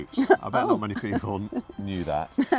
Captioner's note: laughing